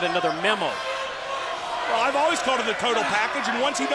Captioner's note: crowd chatter